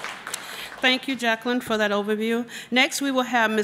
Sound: applause

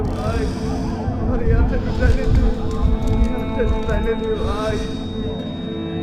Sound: muffled voice

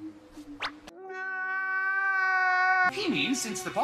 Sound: wails of pure agony

